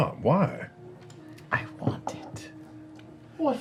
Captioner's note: whispering